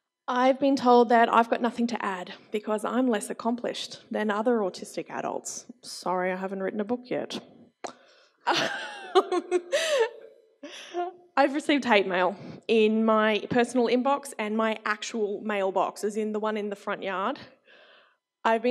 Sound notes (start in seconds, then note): 8.4 laughs